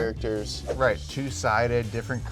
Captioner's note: air whooshing